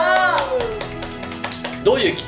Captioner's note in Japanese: 拍手